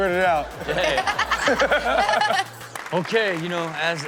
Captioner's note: everyone laughs